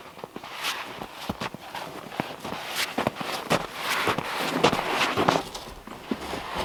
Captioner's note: footsteps crunching; log scraping